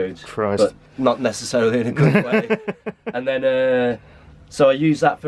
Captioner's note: giggles